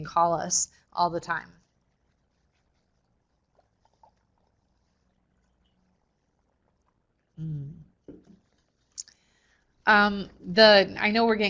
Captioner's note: no sound - waiting for questions